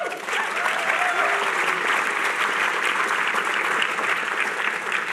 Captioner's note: cheering